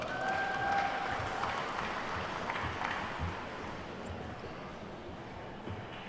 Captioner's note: attendees whooping and clapping